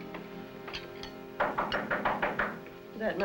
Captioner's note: knock